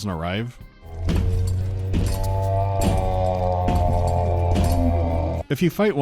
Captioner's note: lonely, mournful wail